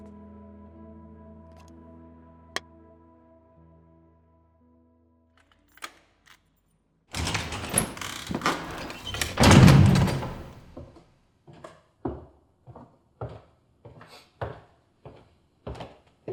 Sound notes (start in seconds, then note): 7.1 door opening and closing; 11.6 footsteps